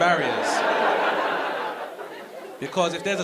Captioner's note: audience laughing